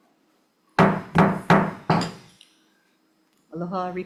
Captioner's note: gavel bangs